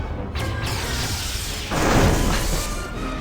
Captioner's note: explosion